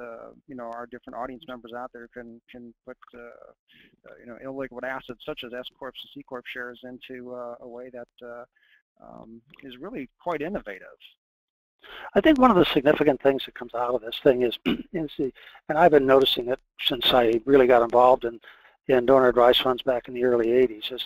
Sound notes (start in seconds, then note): 14.6 cough